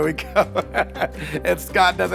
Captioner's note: laughs